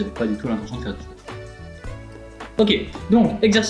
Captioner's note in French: bloup bloup